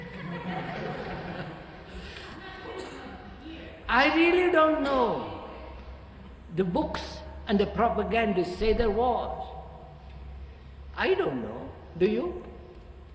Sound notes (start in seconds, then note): 0.0 laughter